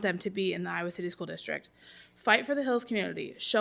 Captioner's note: none